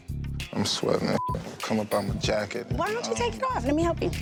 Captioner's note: beep